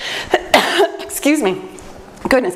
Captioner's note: coughs